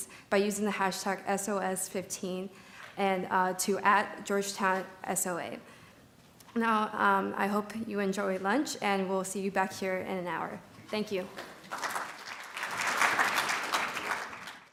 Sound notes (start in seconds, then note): 11.4 audience applauds